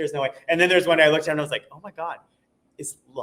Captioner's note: none